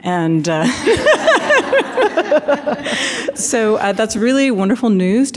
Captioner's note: laughter